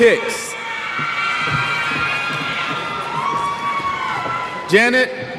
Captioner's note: cheers